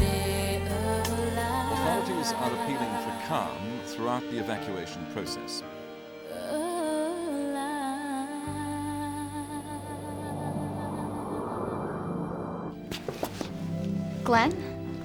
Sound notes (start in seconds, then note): 9.6 wind blowing